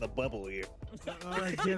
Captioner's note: Legend of Avantris Mace-laugh.mp3